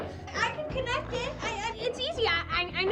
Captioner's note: voiceover